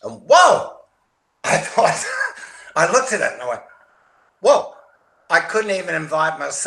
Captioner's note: chuckles